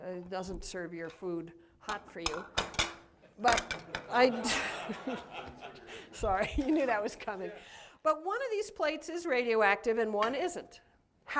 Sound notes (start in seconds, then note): 3.8 laughter